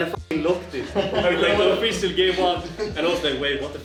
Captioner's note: laughter